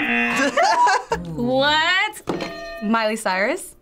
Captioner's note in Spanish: zumbador; ambos se ríen; suena la campana